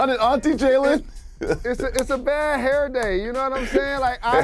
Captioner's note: laughter